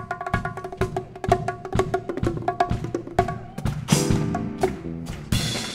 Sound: audience clapping on beat

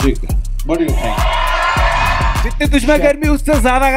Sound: cheering

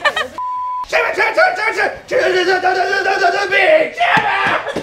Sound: Chibby screaming

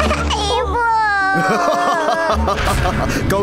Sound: laughs evilly

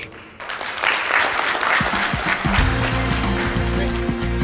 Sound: applause

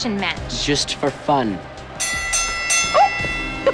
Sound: bell ringing

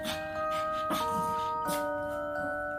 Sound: sniff

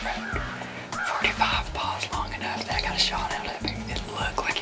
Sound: whispering

